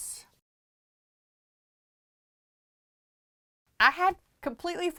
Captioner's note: no Sound Present